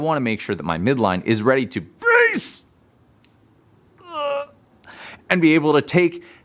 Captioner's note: grunting